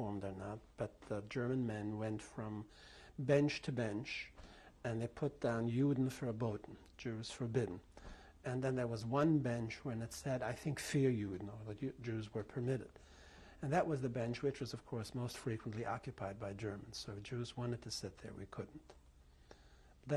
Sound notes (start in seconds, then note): 10.7 german